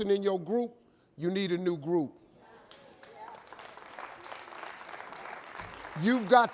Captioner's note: audience applauding